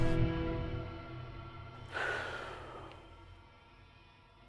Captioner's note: sighs; thoughtful music